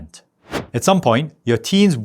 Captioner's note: air whooshing